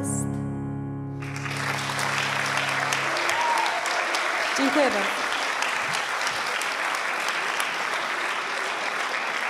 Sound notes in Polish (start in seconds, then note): 4.6 oklaski